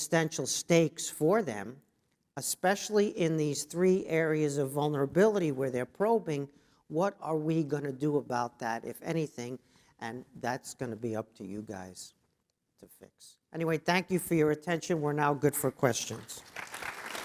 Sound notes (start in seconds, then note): 16.1 applause